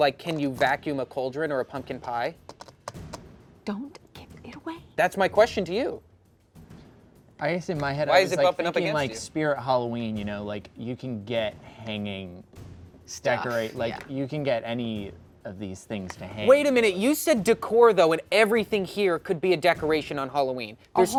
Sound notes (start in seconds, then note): none